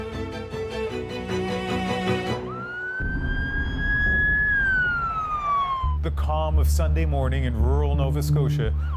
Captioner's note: sirens